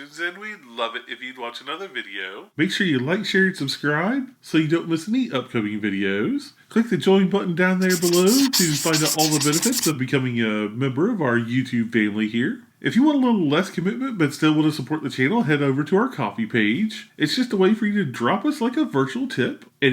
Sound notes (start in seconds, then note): 7.8 marker screeching